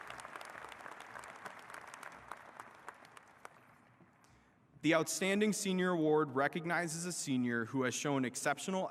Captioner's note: applause